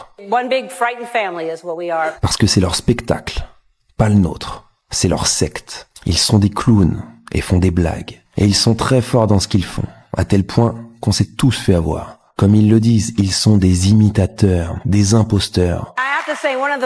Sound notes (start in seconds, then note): 0.0 french dialogue continues; 2.2 french dialogue continues